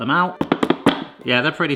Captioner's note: bananas knocking